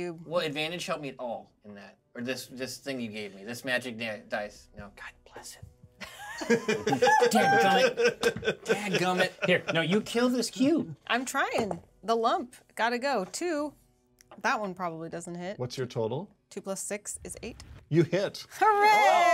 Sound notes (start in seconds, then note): 6.1 laughs; 9.0 speaker laughs